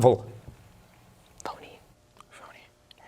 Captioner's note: whispering